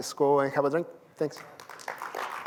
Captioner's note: applause